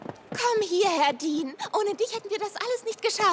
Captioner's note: footsteps running